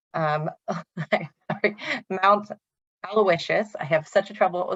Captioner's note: laughs